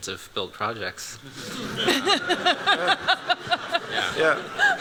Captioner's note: laughter